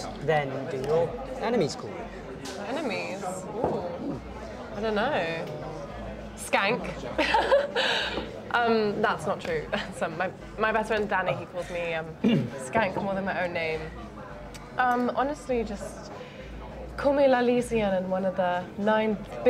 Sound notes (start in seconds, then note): 7.2 laughs